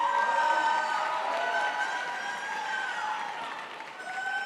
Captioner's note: crowd applauds